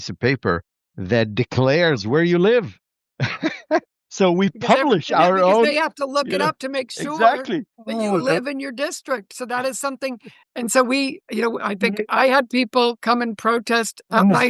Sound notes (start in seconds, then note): 3.2 laughter